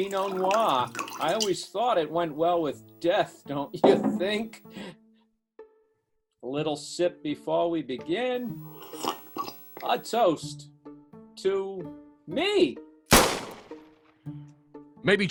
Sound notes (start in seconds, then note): 0.0 cork pop; 8.4 slurp; 13.1 gunshot!